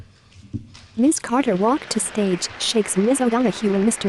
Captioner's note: applause